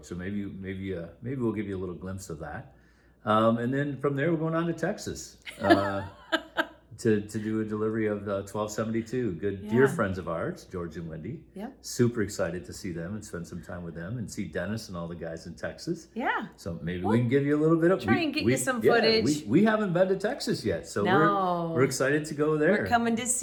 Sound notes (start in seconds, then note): 5.5 laughs